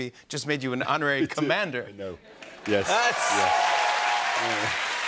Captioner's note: cheers and applause